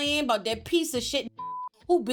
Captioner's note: beep